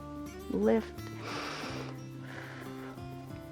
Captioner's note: inhales and exhales